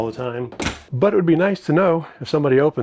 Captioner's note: speaker closes door